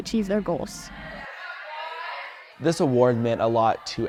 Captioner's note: students chattering